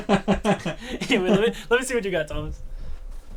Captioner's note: Thomas laughing